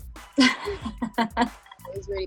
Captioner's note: laughs